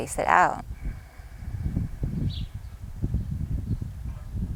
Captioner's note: exhales deeply